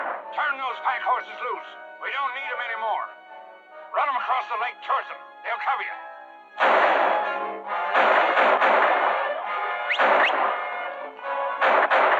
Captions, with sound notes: Turn those pack horses loose! We don't need 'em anymore. Run 'em across the lake towards 'em. They'll cover you. [gunshots] [rider whistling]